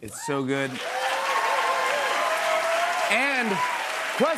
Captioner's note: cheers and applause